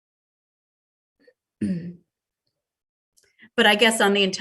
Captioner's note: clears throat